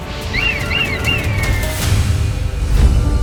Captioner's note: squawking